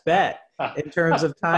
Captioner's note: laughs